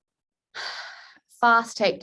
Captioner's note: sighs